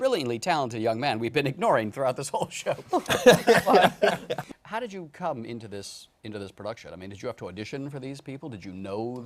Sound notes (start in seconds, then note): 2.7 laughter